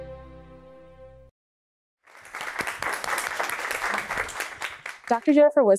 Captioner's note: applause